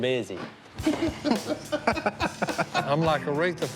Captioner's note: laughter